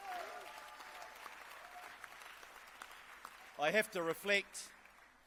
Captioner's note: clapping and cheering